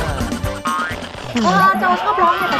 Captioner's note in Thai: เสียงเอฟเฟกต์